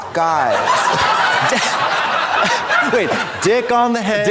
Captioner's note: audience laughs